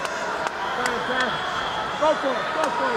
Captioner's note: Roddy cheering